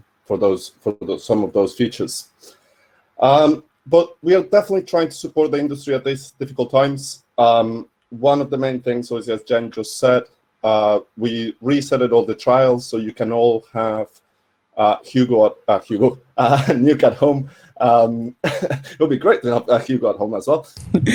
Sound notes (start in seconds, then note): 18.4 laughing; 20.8 laughing